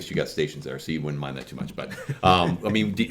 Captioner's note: laughs